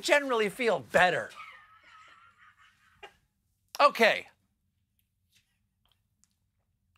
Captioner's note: laughter